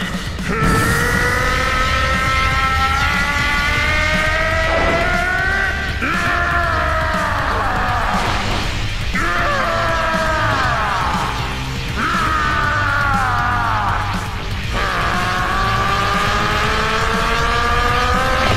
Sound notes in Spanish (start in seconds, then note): 0.0 Gruñidos; 0.4 Gritos; 5.8 Grita enfadado; 11.6 Gritos